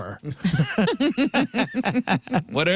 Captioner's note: laughing